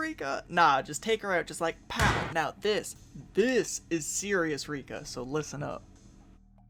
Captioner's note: bang